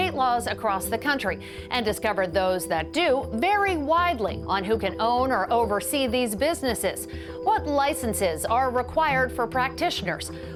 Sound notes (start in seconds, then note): none